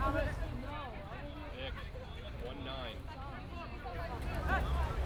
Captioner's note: people talking